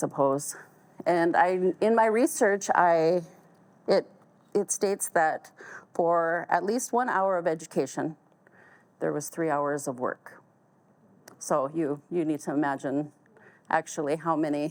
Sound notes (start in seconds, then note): none